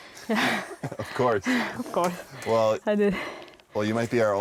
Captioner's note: laughs